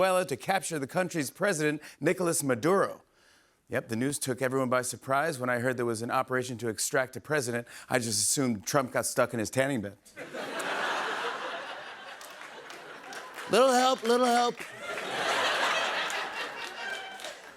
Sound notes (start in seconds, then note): 10.2 laughter, applause; 13.3 Trump voice; 15.1 laughter, applause